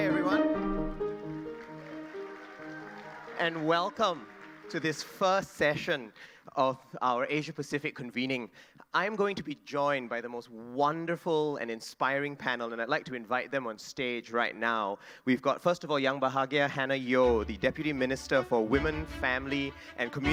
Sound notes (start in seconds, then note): 1.7 audience applauding